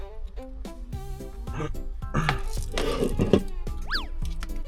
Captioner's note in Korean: 헛기침